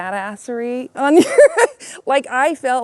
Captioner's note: woman laughing